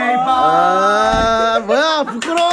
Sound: bang!

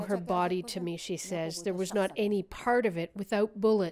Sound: speaking foreign language

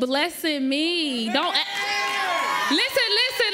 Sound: audience cheers

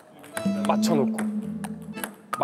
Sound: swoosh

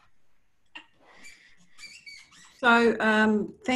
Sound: squeaking

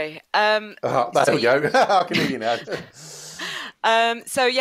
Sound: laughs

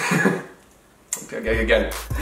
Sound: laughs

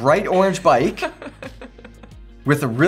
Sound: laughs

